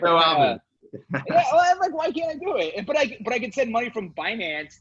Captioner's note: laughs